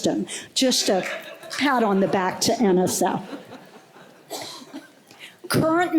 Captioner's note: laughter